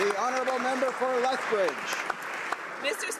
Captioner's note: applause